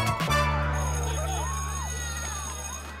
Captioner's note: bell ringing